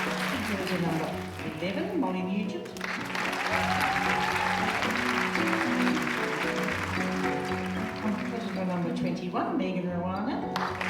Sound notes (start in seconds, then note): 0.0 audience applauding; 0.0 gentle music; 2.8 audience applauding; 2.8 gentle music; 10.5 audience applauding; 10.7 gentle music